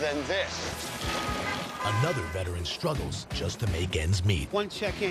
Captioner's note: car horns honk